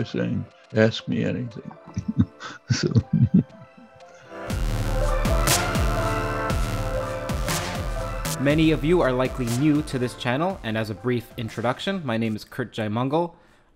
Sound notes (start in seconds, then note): 4.7 chuckles